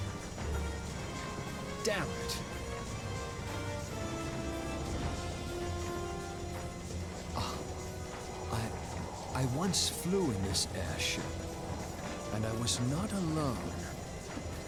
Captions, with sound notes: (sighs) I once flew in this airship, and I was not alone.